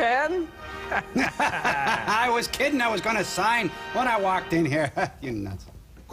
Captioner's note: laughing